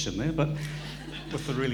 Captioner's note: chuckling; audience chuckling